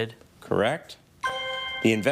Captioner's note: chime resonating